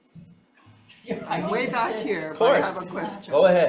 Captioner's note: speaker chuckling